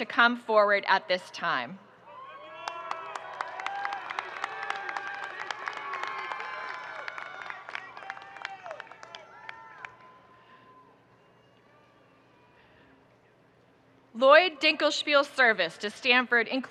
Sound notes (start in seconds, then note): 2.1 audience cheering and applauding